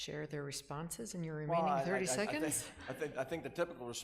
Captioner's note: laughing